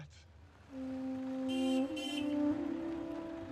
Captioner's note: car horn honks; light orchestral music